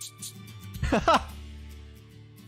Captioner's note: medium laugh